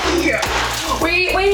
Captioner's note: loud banging sound